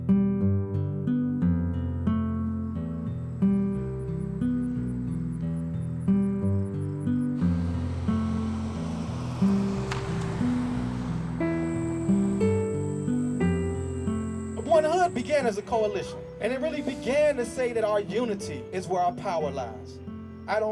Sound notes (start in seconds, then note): 0.0 sad folk music; 5.1 crickets chirp; 8.3 traffic passes